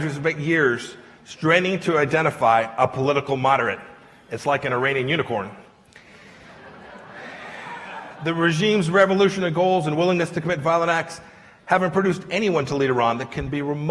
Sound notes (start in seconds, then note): 6.2 laughter